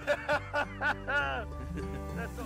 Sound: laughs

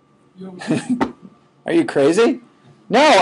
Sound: chuckling

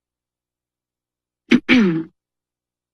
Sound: clears throat

